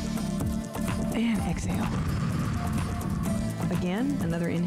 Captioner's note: breath hisses